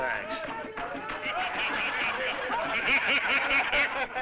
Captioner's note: crowd laughing